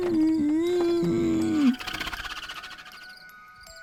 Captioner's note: spiders screeching